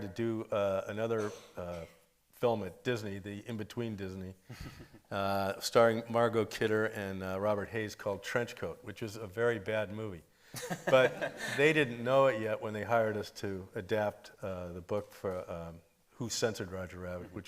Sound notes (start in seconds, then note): 1.1 attendee coughing; 4.5 lightly chuckles; 10.6 everybody laughing